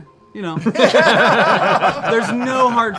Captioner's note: laughter